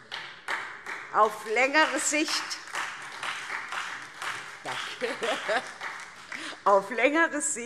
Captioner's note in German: Beifall